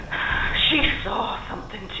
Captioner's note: sighs